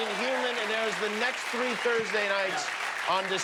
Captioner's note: cheers and applause